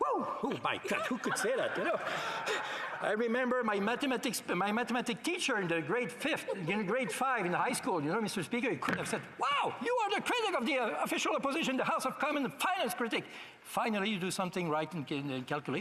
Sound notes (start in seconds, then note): 6.2 laughter